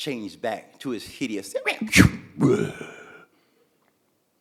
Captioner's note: Zimwi growling